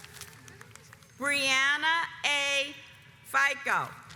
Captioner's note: audience applauds